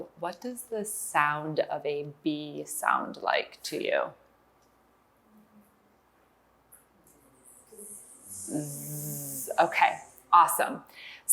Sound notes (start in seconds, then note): 7.4 making bee sound